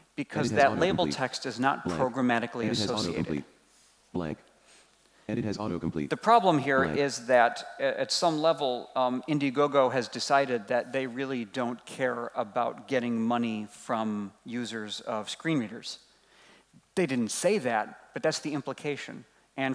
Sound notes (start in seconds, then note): 5.3 computer Voice